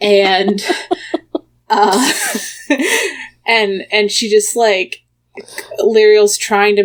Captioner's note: laughs